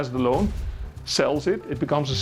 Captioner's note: stamp smashing